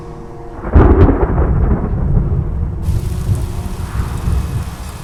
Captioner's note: thunder crashing